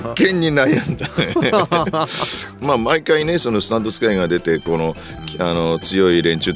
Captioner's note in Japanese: 笑い